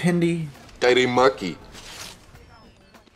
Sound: Hindi

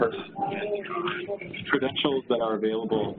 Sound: listeners murmur

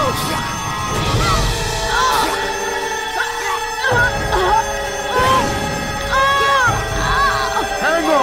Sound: choking

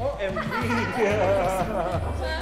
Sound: laughs

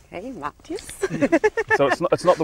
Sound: laughing

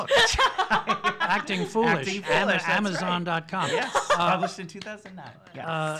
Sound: laughs

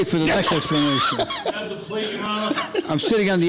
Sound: laughing

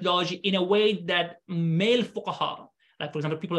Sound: speaking arabic

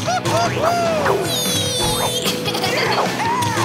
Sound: laughing

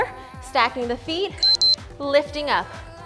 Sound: alarm beeping

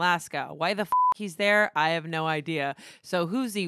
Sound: beep

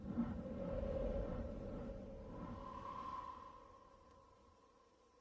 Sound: winds blowing

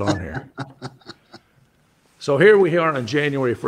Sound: laughs

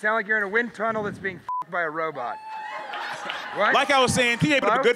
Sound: beep

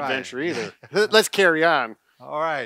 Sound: laughs

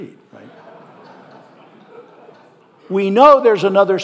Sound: audience laughing

